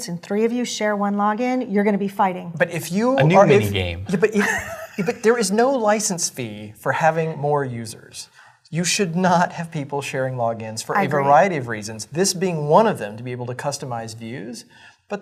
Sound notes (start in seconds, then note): 3.2 laugh